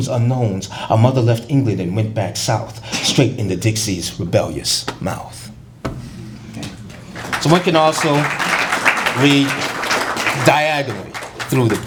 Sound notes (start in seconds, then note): 4.6 applause